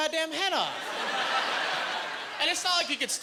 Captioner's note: laughing